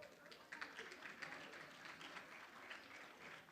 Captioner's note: room applauds